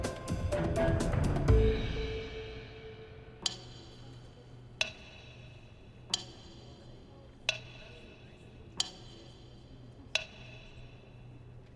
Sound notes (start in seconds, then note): 3.1 slow ticking